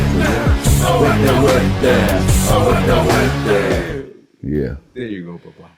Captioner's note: non-english speech